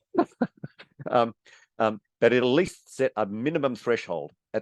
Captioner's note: chuckles